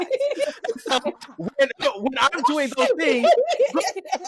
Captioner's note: laughter